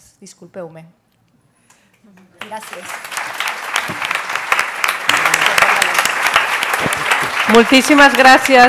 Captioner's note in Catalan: aplaudiments